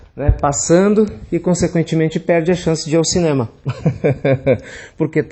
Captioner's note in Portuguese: risos